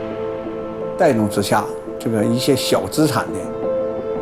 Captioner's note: speaking Chinese: English translation on screen